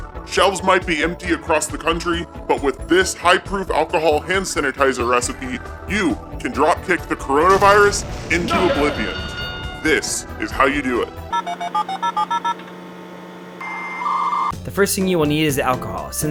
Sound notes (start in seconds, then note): 11.3 phone dial; 11.3 dial up noise